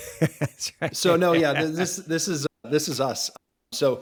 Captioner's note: laughs